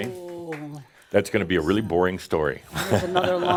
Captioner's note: Adamus chuckles